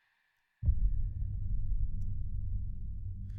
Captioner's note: discomforting rumble